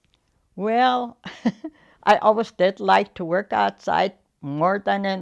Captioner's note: chuckles